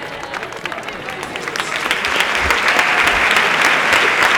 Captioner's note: applause continue